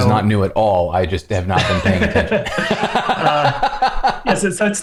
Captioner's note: laughter